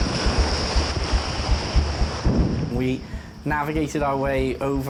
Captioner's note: waves crashing